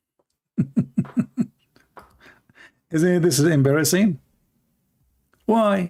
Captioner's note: Ketawa